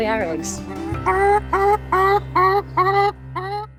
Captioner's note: chicken clucks